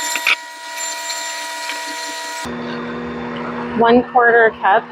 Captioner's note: mixer sound